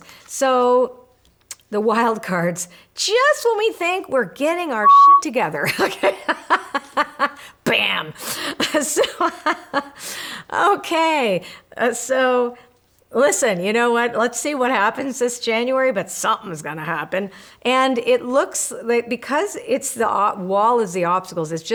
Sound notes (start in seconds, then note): 4.8 beeping; 5.6 laughing; 8.6 laughing